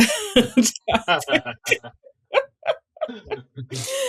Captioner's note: both laughing